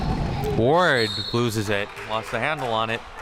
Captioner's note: whistle chirping